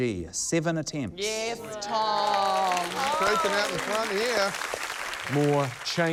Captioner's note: cheering, applause